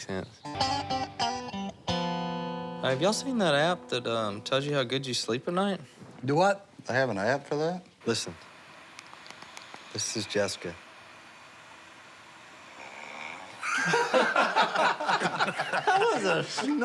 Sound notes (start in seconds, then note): 12.6 snoring; 13.6 laughter